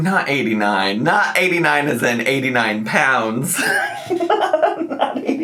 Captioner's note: laughs